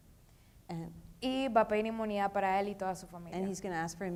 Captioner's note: speaking in foreign language